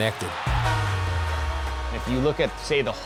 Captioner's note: goal horn blowing